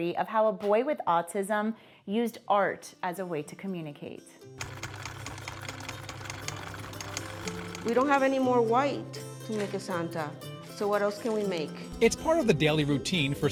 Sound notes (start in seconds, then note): 4.6 machine clicking; 4.6 inspiring music